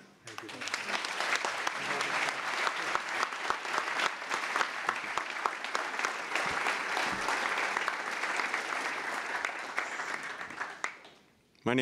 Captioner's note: applause